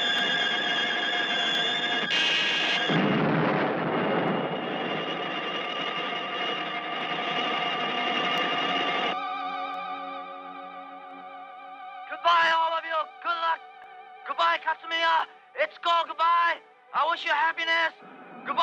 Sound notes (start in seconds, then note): 2.1 explosion booming